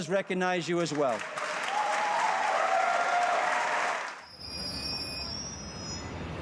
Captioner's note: audience applauding and cheering